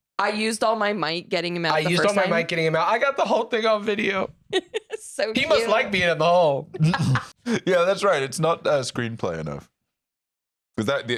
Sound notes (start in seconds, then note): 6.7 laughs